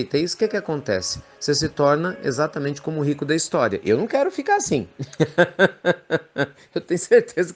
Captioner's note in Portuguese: Risos